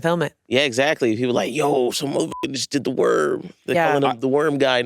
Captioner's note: beep